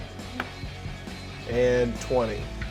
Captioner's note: die rolls